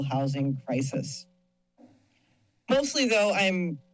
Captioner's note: pause